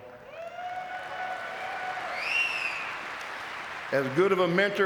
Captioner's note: audience cheering and clapping